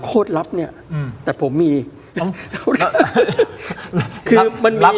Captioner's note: laughs